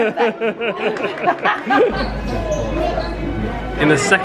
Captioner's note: laughing